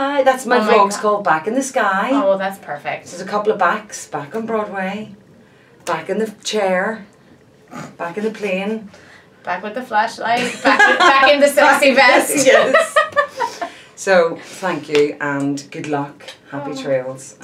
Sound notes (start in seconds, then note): 7.7 snorts; 10.4 laughing